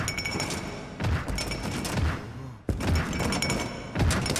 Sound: heavy footsteps

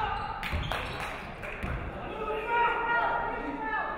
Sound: referee whistles; audience clapping

